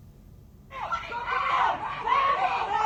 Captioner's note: screaming